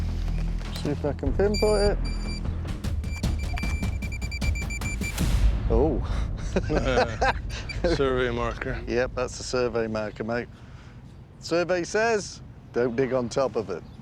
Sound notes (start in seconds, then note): 1.4 beeping; 6.2 laughter